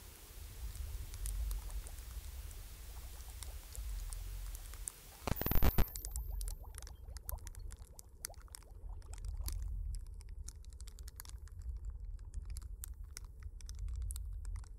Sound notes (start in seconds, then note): 0.0 fire crackling, cauldron bubbling; 0.0 TV crackle